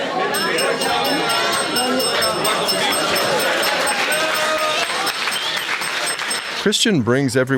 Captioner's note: background student chatter; bell ringing